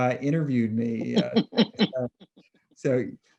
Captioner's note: laughing